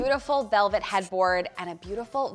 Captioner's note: marker skritching